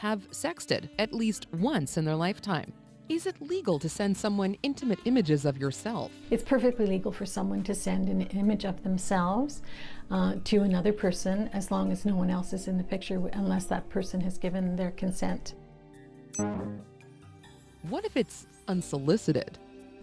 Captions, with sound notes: 88 per cent of adults have sexted at least once in their lifetime. It's perfectly legal for someone to send an image of themselves to another person as long as no one else is in the picture, unless that person has given their consent. [digital beep]